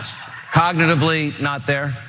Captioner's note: laugh